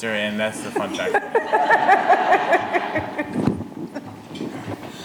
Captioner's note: audience laughing